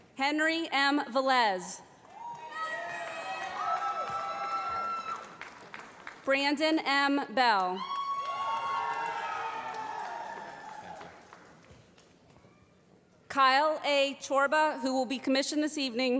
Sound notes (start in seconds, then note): 2.3 shouting; 7.8 loud cheers